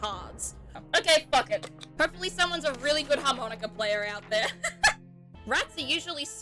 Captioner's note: laughs